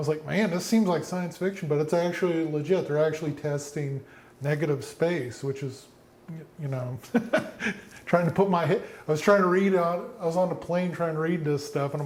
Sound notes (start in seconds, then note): 7.0 laughs